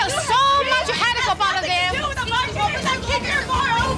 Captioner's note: arguing